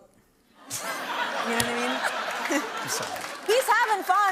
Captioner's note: laughter